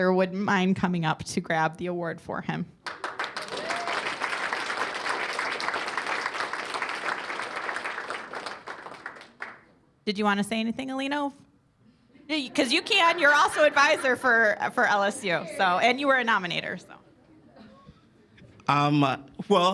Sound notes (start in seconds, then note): 2.8 cheers and applause